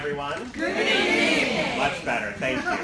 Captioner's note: crowd